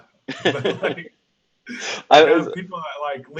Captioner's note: laughing